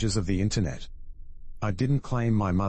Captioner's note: electrical noise